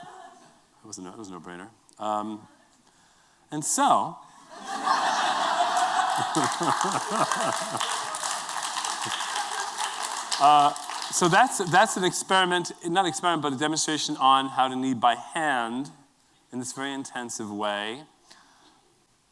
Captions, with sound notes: That was a no-brainer. And so-- [LAUGHTER] [APPLAUSE] So that's a demonstration on how to knead by hand in this very intensive way.